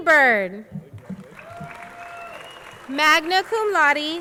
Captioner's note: crowd cheering